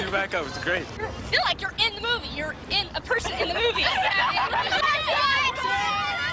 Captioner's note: laughter